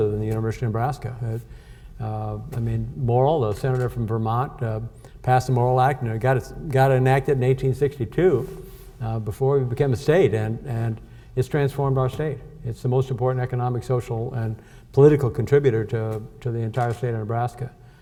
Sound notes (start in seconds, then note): none